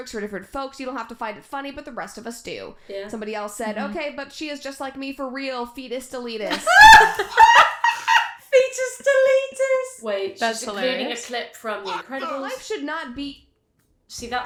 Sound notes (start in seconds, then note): 10.5 girls crack up laughing